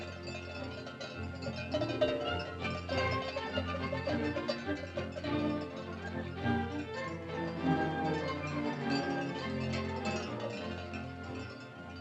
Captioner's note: cow bells rattling; whimsical music